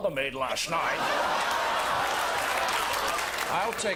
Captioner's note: crowd laughing